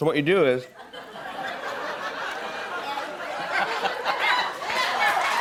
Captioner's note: laughter; cheers and applause